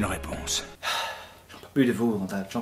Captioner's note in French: Soupir